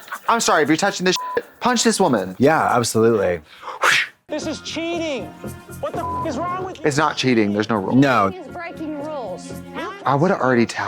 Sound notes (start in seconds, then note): 1.1 beep; 5.9 beep